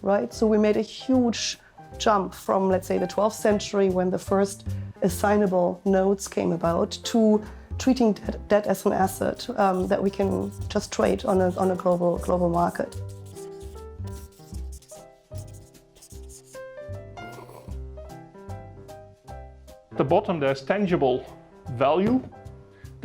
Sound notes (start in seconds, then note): 16.9 jazzy piano music; 17.2 slurping beverage